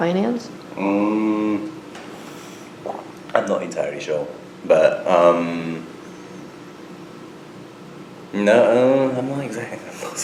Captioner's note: laughs